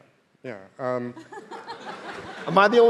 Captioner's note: audience laughing